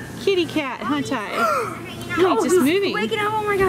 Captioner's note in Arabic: يلهث